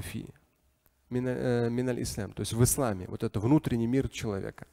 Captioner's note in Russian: говорит на арабском